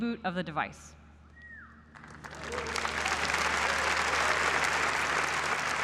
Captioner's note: applause